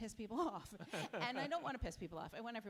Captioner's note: chuckles